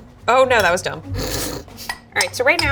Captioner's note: snorts